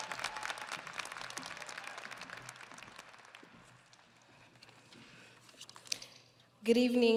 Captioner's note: audience applauding